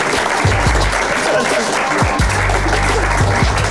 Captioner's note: people clapping